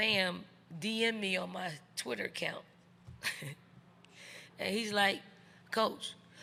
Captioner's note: chuckles